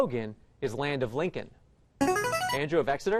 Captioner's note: chiming